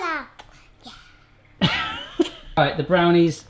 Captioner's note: laughing